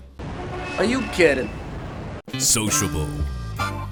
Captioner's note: train sound